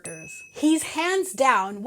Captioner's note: bell ringing suggestively